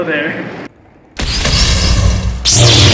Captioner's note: ignite sabers